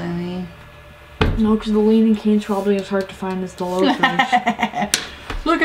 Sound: laugh

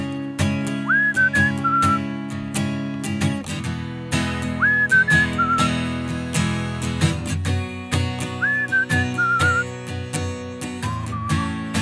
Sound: whistling

